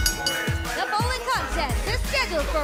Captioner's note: bell ringing